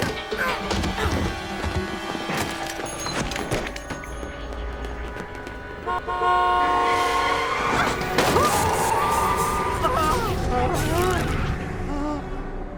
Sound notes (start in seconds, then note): 5.6 horn honking; 6.8 brakes screeching